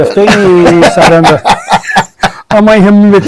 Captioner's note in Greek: γέλια